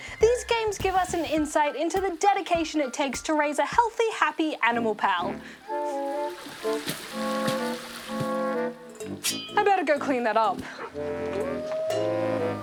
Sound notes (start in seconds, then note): 5.3 sniffs; 10.9 barks, howls